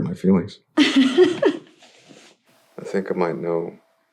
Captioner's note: laughter